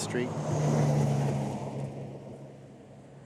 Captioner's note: cars rumbling